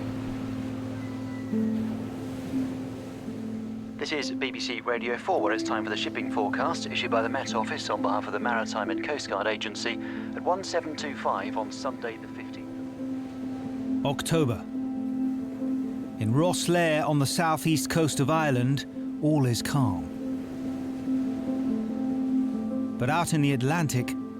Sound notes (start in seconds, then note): 0.1 gentle music; 4.1 radio